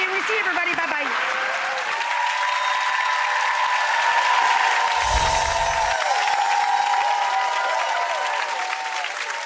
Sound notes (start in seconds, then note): 1.2 audience cheering